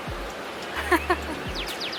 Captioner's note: laughter